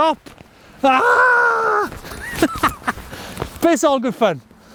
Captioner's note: laughing